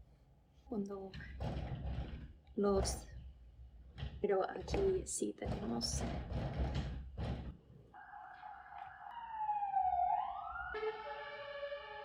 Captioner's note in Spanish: la ventana golpeando; más golpes